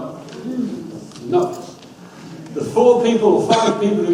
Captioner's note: audience murmurs